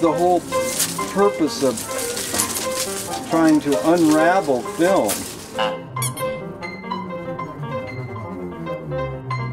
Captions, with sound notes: So that's the whole purpose of was a trying to unravel film. (toy squeaks softly)